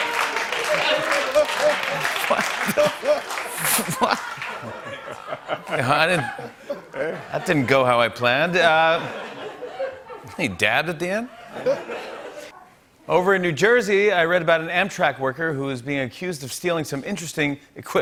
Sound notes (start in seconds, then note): 0.0 laughter and applause; 8.6 laughter